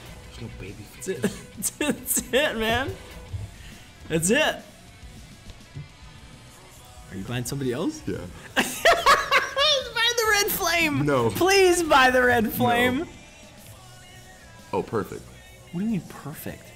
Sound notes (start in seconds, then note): 0.0 laugh; 8.4 laugh